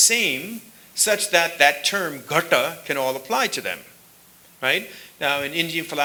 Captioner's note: sanskrit